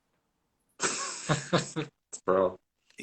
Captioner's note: laughs